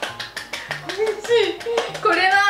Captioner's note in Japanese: 拍手